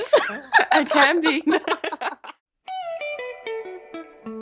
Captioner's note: laughter